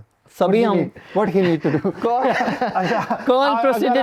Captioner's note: laughs